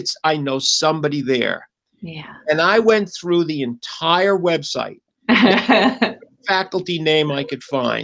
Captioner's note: laughter